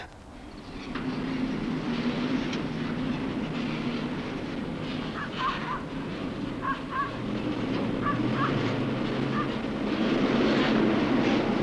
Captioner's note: vehicle noise